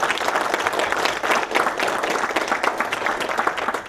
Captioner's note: applause